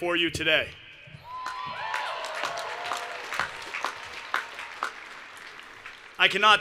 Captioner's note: cheering and Applause